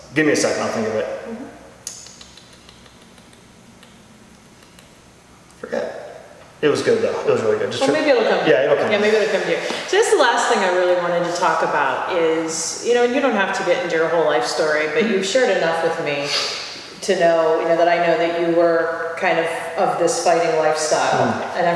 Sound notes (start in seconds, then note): 1.8 tsk-ing and clicking tongue